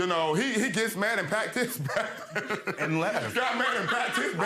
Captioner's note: laughing